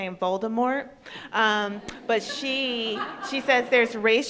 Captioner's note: crowd laughs